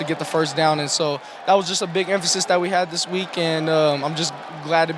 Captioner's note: all cheering